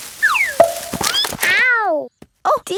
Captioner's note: thud